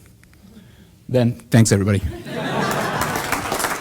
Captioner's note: laughter and applause from audience